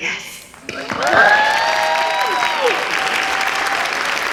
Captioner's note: applause and cheering